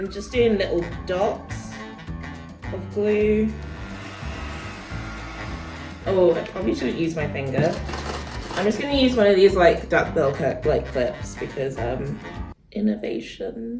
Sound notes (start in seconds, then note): 3.6 blowing noises